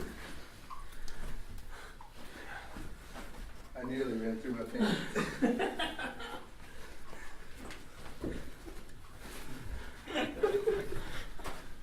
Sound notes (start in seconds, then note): 4.7 laughter